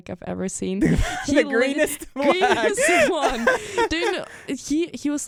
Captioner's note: both laugh